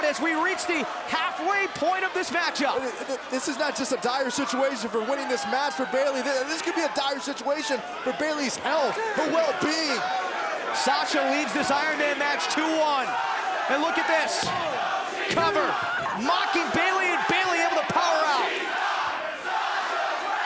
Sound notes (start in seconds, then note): 9.7 crowd chatter; 13.7 crowd chatter